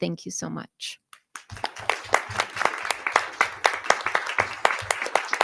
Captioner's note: audience clapping